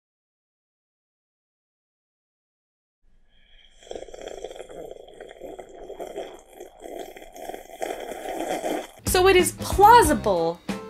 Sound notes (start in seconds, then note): 3.1 slurping noise